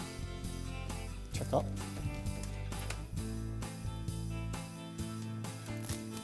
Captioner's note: upbeat music; tapping on air conditioner